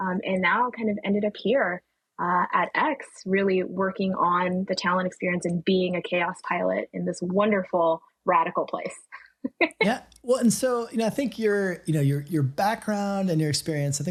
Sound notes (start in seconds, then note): 10.3 laughing